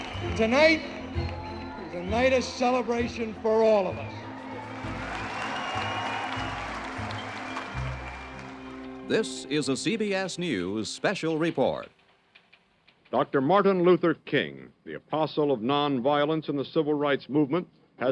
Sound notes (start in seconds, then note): 0.0 crowd cheers and applauds; 5.2 crowd cheers and applauds